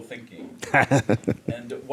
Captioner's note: laughing